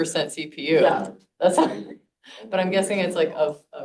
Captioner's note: chuckles